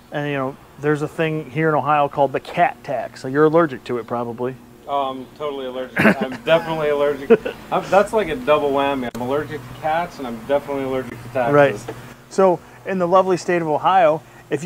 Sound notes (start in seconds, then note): 5.9 laughs